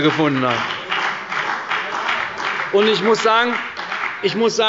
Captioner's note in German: Beifall bei der CDU und dem BÜNDNIS 90/DIE GRÜNEN